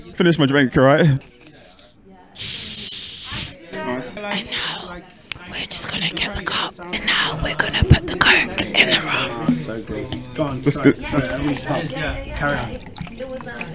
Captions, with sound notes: Finish my drink, alright? *fizzy gases escaping* Nice. I know. We're just. and now, we're just gonna get the cup, and now we're going to put the coke in the rum ASMR, so good Go on. Carry on.